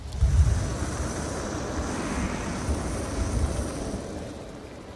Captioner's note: wind whooshing